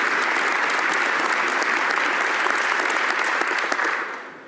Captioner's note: applause